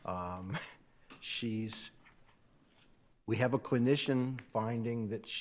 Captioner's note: chuckles